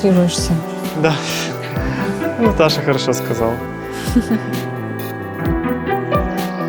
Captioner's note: laughs